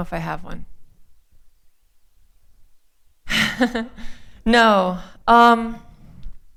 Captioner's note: laughter